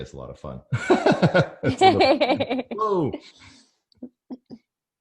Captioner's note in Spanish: both laugh